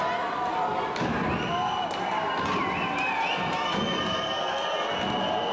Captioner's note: audience cheering and booing